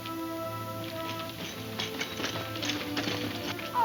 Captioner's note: spurs jingle